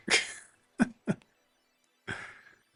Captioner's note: laughs